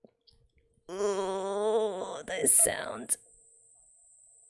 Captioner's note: pained noises